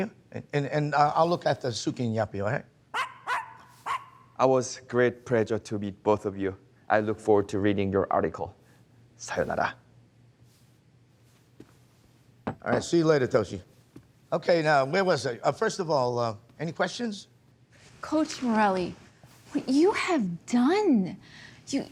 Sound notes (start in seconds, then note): 2.9 dogs barking